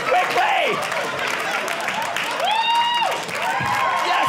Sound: audience laughing

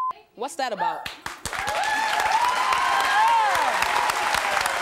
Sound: audience cheering

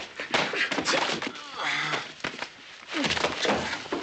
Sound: men grunting

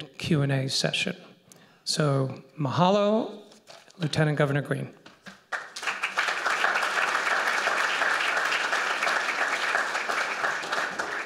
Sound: applause

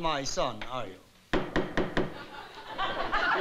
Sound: judge pounds gavel

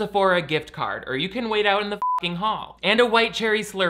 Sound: beep

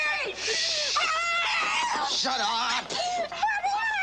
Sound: screaming

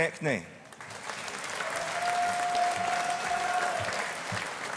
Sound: audience applauding

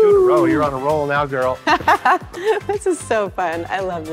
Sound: laughing

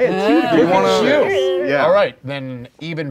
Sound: cheering

